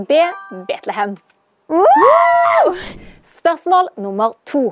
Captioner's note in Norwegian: Jubel